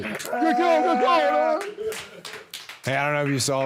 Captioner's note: Jey cheering; all cheering and clapping